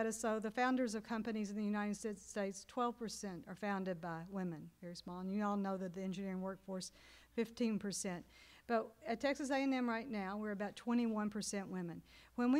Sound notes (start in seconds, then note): none